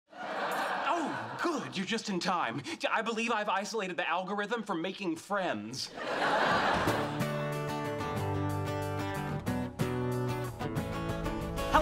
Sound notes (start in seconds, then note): 5.9 audience laughing; 7.9 gentle music playing